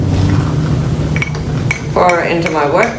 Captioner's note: coffee pouring; utensils clinking